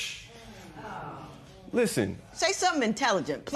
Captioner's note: spectators murmur